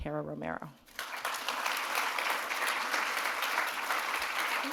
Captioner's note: audience applauding